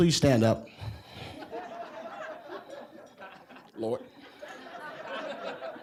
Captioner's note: audience laughing